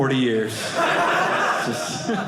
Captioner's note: audience laughing